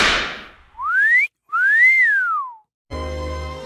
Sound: wolf whistle

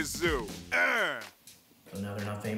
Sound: grunts

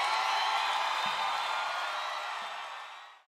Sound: cheering fading out

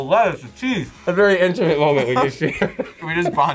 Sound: laughs

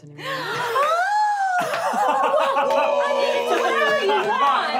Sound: gasping and laughing

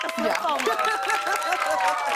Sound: cheers and applause

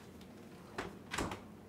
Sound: door closes

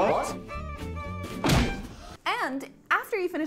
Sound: upbeat string music; knuckles thud

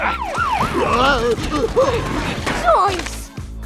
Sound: siren wailing; Scooby grunting

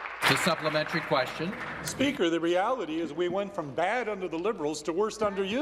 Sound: applause

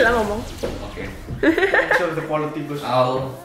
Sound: tyrannic laughter

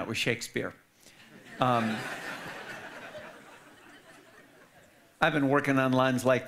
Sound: audience laughing

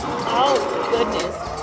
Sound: dinosaur roaring; metal thudding

